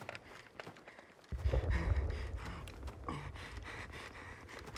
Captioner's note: Ellis panting